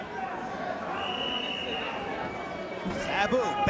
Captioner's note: whistling